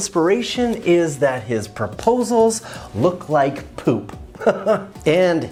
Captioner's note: laughs